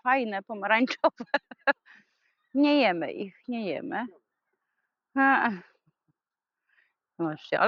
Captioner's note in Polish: śmiech